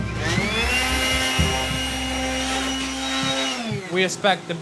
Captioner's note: classical music; blower whirring